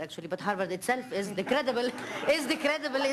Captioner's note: audience laughing